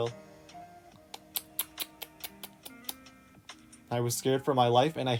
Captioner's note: imitating lizard noises